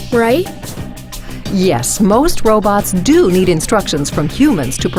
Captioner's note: voiceover